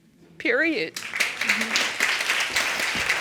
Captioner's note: audience applauding